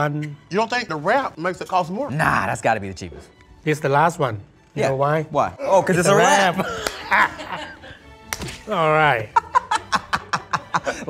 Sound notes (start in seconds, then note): 6.2 all laughing; 8.2 hands thwacking; 9.2 laughing